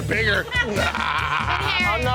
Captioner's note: grunts comically